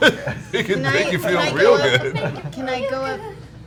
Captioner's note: laughs